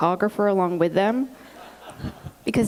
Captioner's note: laughter